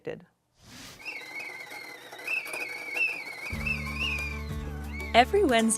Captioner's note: kettle whistling